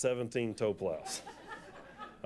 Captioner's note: laughter